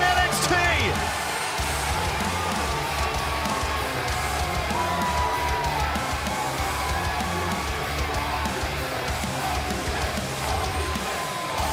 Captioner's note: crowd cheering